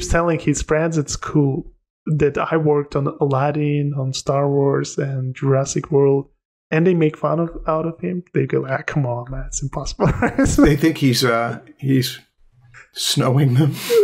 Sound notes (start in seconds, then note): 10.0 laughter